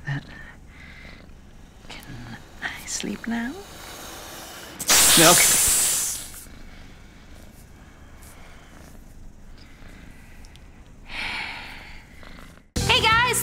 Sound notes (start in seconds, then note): 0.1 feet purring; 4.6 snake hissing; 5.4 purring; 10.6 sighs